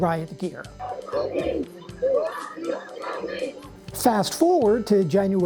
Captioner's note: protesters chanting